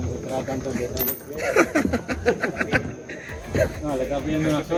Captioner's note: laughs